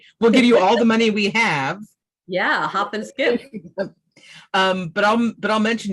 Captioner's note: laughs